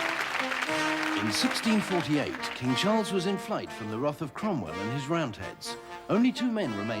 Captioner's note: man reading